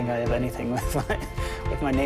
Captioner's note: laughs